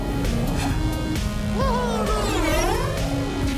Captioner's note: laughs